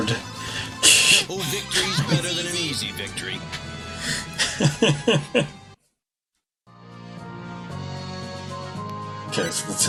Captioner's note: laughs